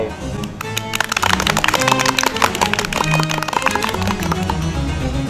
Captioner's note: applause